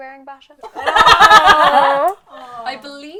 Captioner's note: laughter and disgusted noises